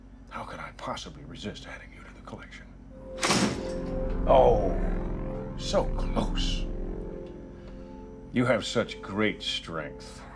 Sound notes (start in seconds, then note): 2.8 thump